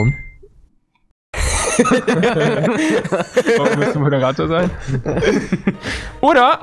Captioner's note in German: lachen